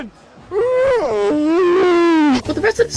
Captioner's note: puts microphone in mouth while moaning